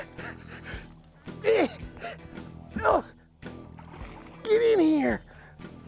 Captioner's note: grunting